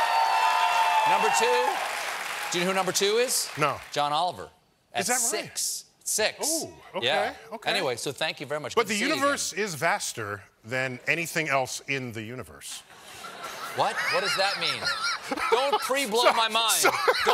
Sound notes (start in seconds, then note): 0.0 cheers and applause; 14.6 laughter